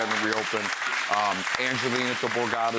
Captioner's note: audience cheers and claps